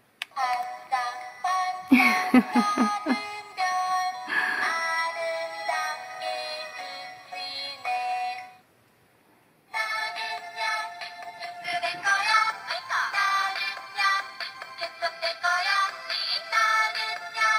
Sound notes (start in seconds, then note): 0.1 in foreign language; 1.9 light chuckle; 11.4 folksy song in foreign language